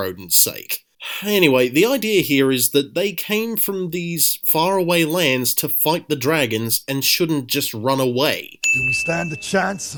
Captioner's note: sigh